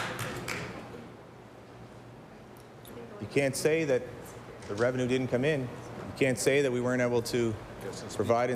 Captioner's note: applause